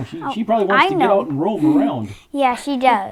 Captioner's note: laughs